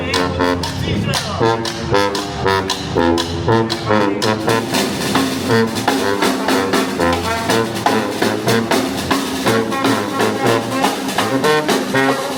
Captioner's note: Turkish